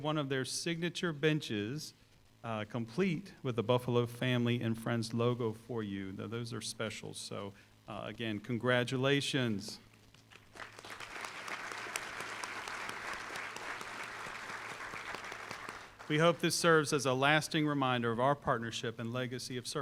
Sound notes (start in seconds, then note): 10.2 applause